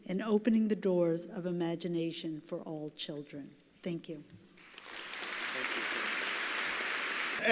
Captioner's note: applause